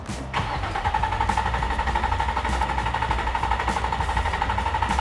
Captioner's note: car engine turning over